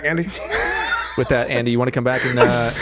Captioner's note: laughing